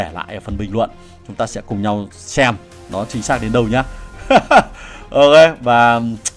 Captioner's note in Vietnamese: tiếng cười